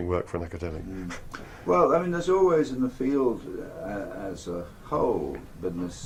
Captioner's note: laugh